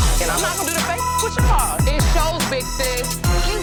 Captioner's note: beeping